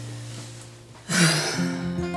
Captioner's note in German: Seufzen